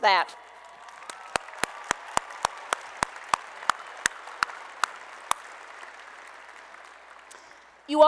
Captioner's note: applause and Cheering